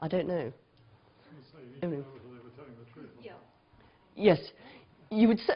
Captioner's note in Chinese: 無聲